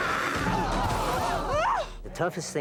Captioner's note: all gasping